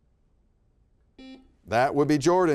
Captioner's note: buzzer beeping